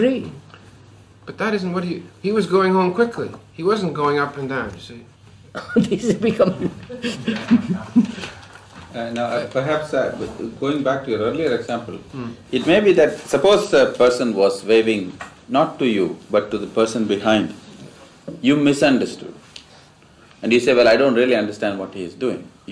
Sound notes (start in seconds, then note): 5.5 laughs